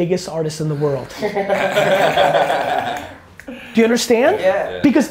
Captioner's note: group laughter